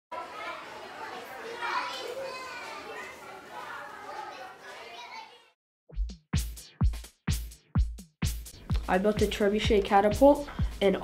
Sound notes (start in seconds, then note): 0.1 children chattering; 5.9 upbeat music